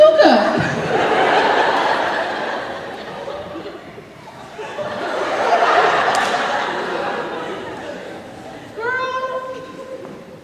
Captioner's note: audience laughing